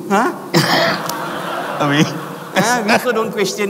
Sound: audience laughs

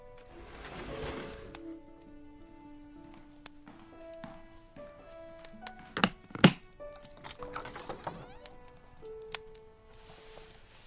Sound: sounds of latches opening and fabric being moved

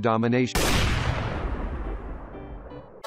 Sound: sniper shot

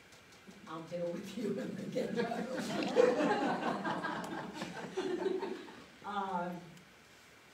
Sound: laughs

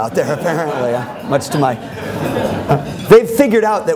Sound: laughter

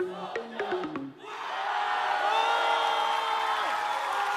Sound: screams and Applause

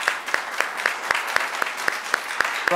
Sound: applause

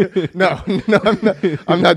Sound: laughs

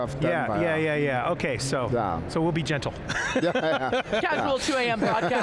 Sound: laughing

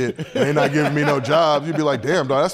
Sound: laughs

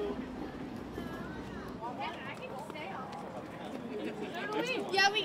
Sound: crowd noises

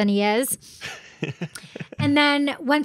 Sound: laughing

